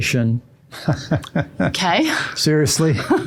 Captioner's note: laughing